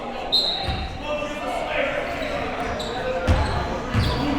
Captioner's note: whistle blowing